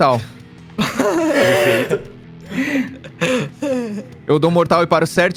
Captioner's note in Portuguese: risos